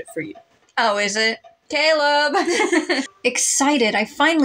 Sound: both Laugh

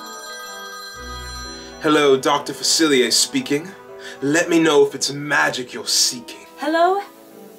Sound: phone ringing

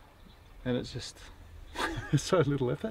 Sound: laughing

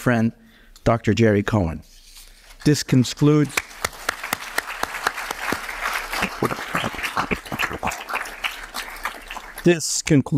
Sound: applause

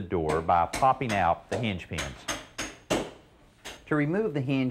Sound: hammer thumping

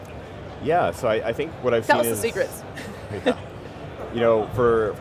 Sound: chuckles

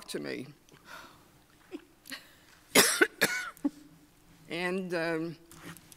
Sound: few panelists chuckle

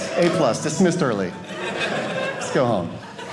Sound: audience laughing

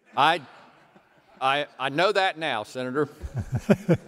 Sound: laughter

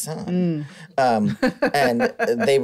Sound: laughs

